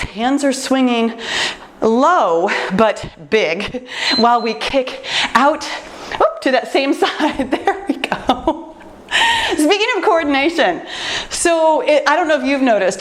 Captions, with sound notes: hands are swinging low, but big while [timer beeps] we kick out to that same side. [laughs] There we go, just begin in coordination. I don’t know if you’ve noticed,